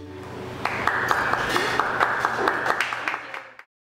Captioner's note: applause